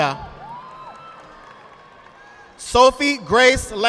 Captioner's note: audience applauding